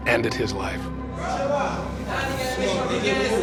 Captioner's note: inmates shouting